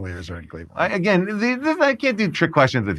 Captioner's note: stammering